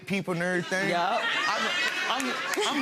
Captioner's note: laughing